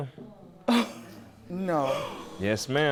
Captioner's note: gasps